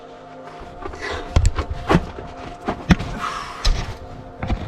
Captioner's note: thudding